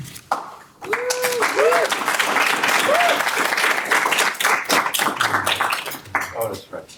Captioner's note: audience applauding